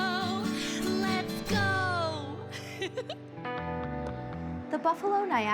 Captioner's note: singer giggles